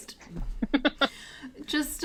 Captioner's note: chuckles